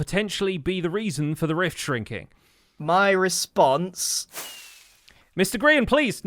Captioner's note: fires rocket